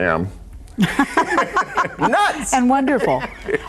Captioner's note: laughs